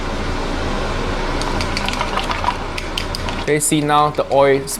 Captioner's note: chop sticks whipping